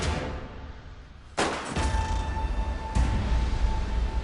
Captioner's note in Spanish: Disparos